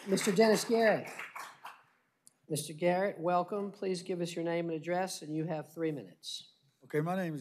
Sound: applause

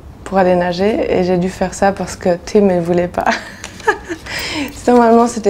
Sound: chuckles

